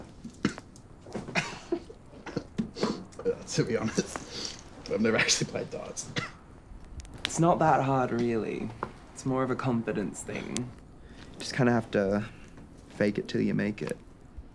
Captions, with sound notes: (chuckles) - To be honest, I've never actually played darts. - It's not that hard really. It's more of a confidence thing. Just kinda have to... fake it till you make it.